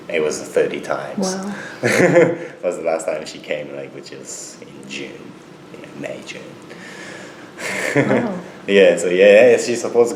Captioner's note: laughs; laughs